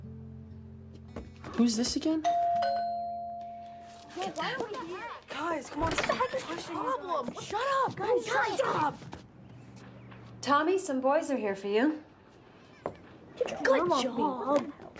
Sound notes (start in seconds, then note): 2.2 doorbell Rings; 4.1 kids Chattering